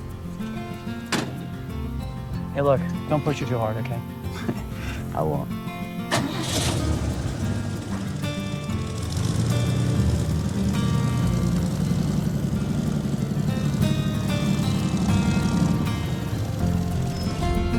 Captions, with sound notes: - Hey, look, don't push it too hard. Okay? - (chuckles) I won't. (engine rumbling)